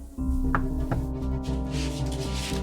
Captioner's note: knocking on door; suspenseful music